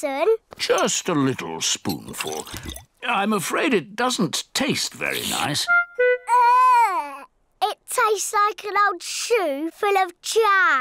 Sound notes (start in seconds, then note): none